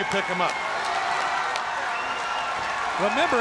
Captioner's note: crowd cheering